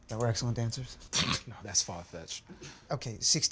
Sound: laughing

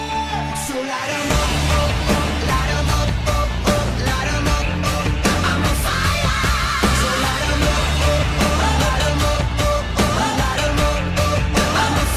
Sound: explosions

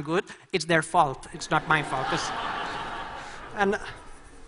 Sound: laughter

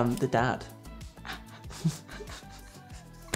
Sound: chuckling

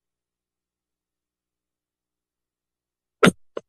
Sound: silence

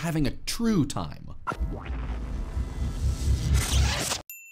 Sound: whooshing

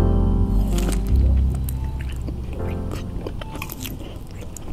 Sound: chewing

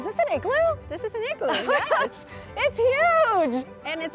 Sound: laughs

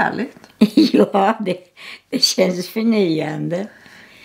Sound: laughter

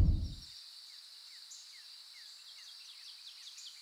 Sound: birds chirping

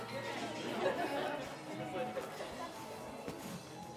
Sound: laughing

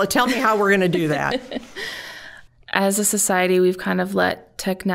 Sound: laughing

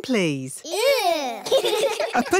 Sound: giggling

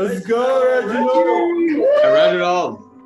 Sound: cheering

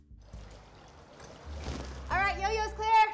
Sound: water rushing

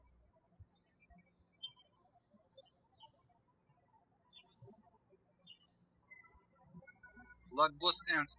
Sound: birds chirping

